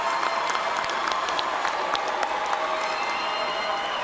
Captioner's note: cheers and applause